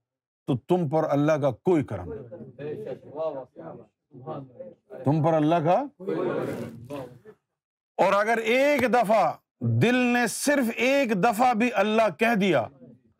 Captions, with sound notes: then you are not being blessed by God in any way. You are...[audience replies]. And if your heart whispers God's name even once in your lifetime